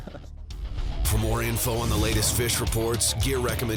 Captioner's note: voiceover